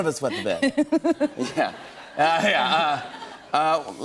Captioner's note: laughter